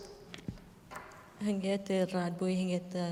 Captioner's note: speaking kurdish